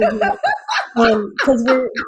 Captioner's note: laughs